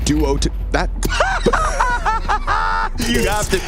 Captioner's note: commentators laughing